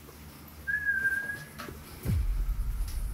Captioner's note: whistle